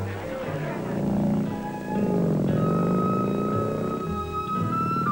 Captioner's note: crowd chattering; engine revving; upbeat string music